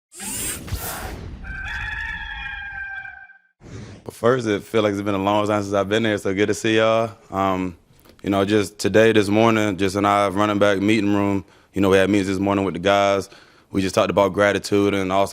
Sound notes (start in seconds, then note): 1.4 rooster crowing